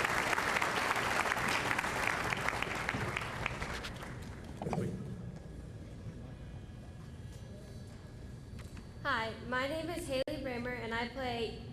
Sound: applause

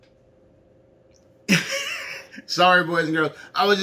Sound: laughs

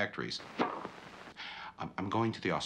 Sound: tennis ball smacking

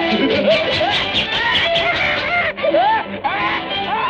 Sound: screaming and laughing

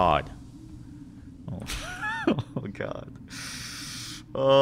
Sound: nervous laughter

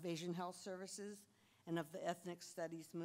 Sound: none

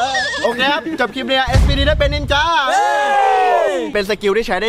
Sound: cheering

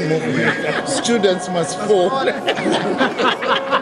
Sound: laugh

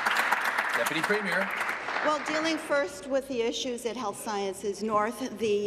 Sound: applause

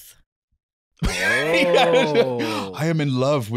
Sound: laughing

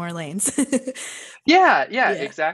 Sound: laughing

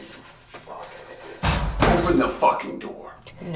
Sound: loud bang

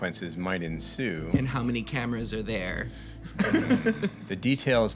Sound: laughs

